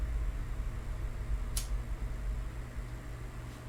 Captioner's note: flicks lighter